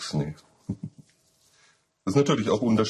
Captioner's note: laughter